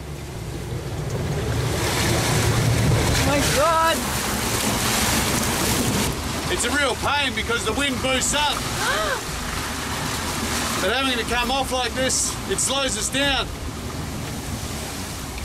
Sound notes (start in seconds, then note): 8.8 gasps